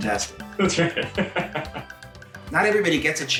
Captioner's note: laughs